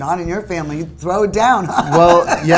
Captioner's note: laughs